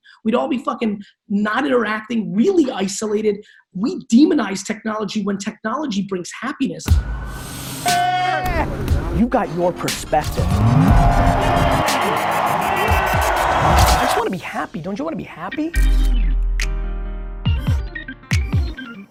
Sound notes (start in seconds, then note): 7.0 upbeat hip hop music; 7.9 men exclaiming; 11.9 audience cheering